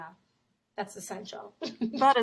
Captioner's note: laughs